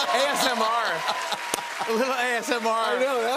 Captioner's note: cheers and applause